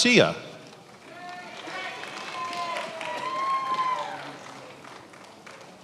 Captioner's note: attendees applauding